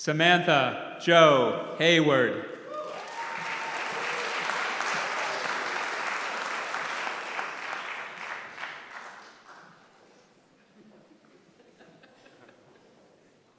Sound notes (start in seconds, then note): 2.7 applause; 10.5 laugh